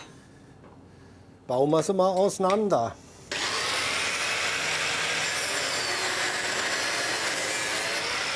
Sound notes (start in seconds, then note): 3.3 loud whirring of the machine